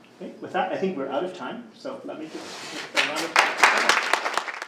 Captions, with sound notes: With that I think we're out of time. So, let me-- (group clapping)